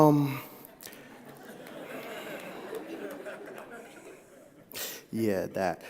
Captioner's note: audience Laughing